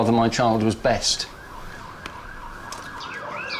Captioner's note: sirens